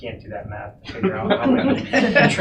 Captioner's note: laughing